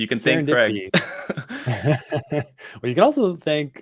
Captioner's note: laughs